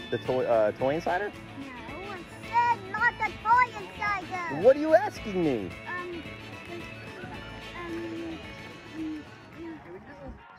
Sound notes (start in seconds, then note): 7.6 murmurs